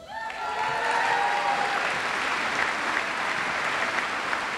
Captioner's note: audience applauds